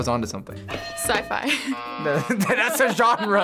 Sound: buzzer rings

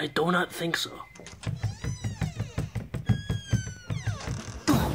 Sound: footsteps, door creaks open and closes

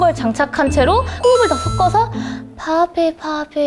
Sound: breathe

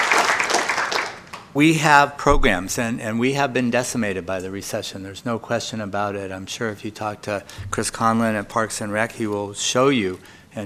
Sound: applause

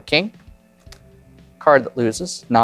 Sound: card slaps

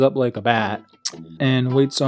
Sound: smacks lips profusely

